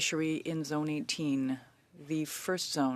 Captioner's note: speaking French